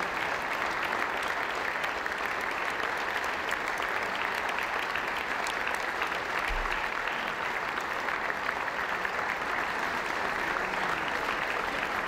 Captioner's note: applause